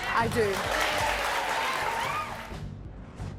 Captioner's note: audience claps; suspenseful music